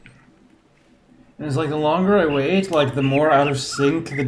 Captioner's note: overlapping birds chirping, ˥ ˥ ˩ ˧ ˩